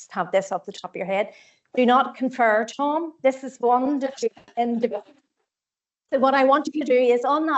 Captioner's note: audio distorts 04.16